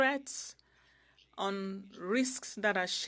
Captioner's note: speaking French